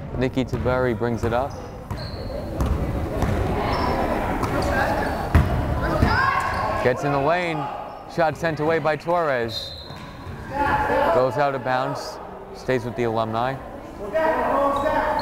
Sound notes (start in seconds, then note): 3.0 crowd chattering; 9.5 whistle blows